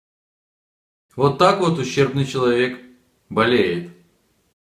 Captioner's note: Ukrainian